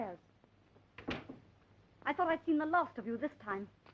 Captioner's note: door closing